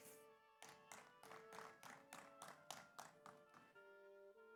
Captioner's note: audience applauds